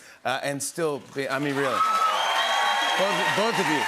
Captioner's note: cheers and applause